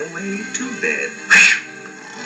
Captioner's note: swoosh; snoring